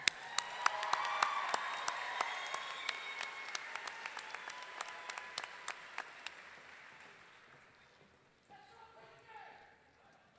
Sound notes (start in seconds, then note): 0.0 audience clapping and cheering